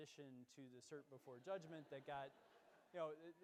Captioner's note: laughing